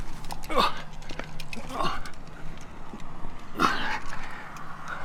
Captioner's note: grunting